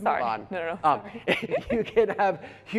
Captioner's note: laughter